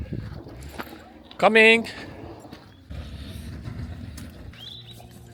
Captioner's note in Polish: Angielski